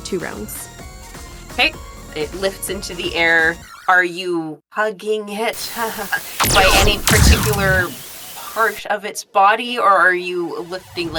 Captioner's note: explosion